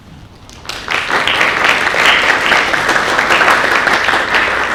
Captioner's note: audience applauding